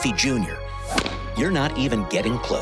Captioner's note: bat hitting a baseball